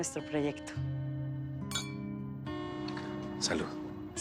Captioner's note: Choque de copas